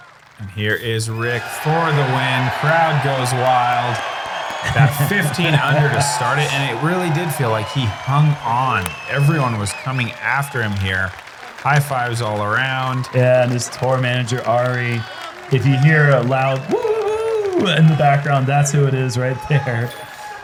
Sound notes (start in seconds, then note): 2.4 applause